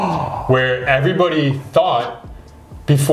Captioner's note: gasp